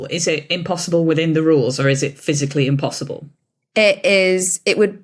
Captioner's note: none